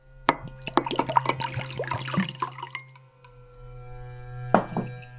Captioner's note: sound of pouring alcohol